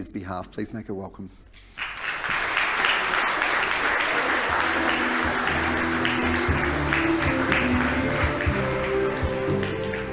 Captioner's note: applause